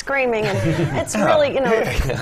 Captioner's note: laugh